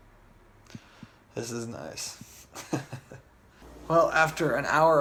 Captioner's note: laughs